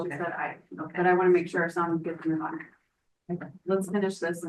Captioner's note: speaks faintly